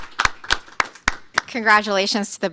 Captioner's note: applause